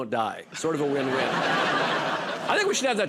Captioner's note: laughter